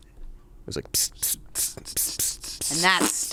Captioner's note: hisses